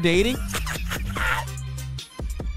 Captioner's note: laughing